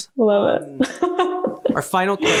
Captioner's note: laughs